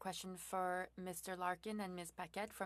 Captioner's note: speaking French